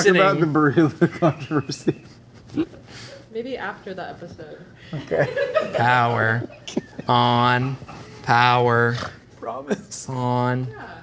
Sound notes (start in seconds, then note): 5.3 crew laughing; 6.5 crew member laughing